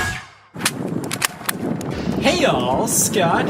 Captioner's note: paper smack; stapler click